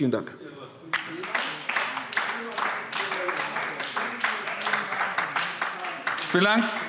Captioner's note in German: Beifall AfD